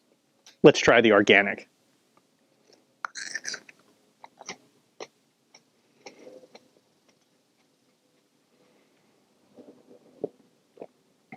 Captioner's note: chewing